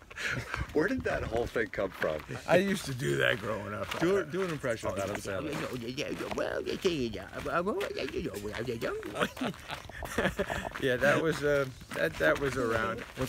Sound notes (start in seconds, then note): 5.8 high pitched babble